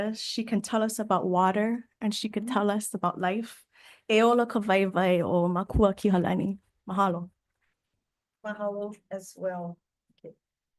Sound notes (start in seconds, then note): 4.2 speaks Hawaiian